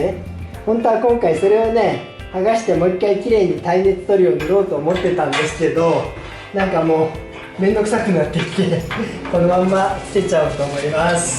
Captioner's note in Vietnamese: cười